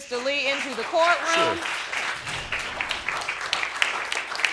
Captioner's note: audience applauds